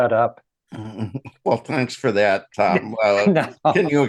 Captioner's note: laughs